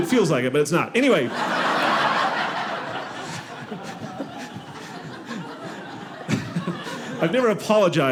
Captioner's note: audience laughing